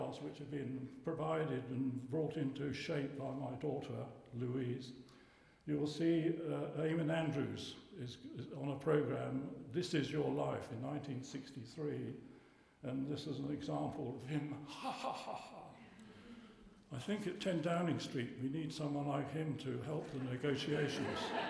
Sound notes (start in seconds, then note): 14.6 imitating learie's laugh; 20.0 laughter